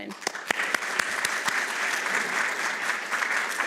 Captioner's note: applause